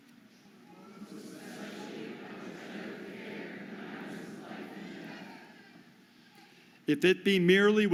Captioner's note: audience repeats